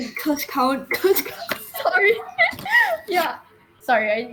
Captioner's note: laughing